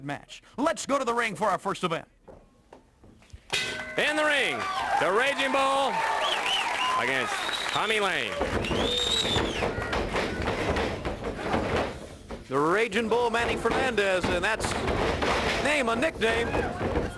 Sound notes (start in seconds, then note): 3.5 bell ringing; 5.8 crowd cheering; 13.5 crowd cheering